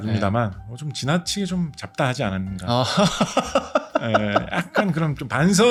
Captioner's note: laughter